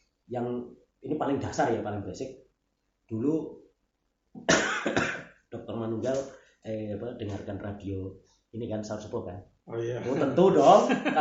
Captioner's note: laughs